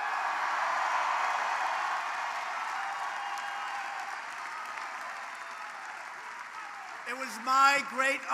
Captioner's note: applause